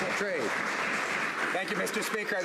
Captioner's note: some Applause